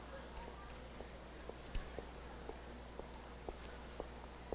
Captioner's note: none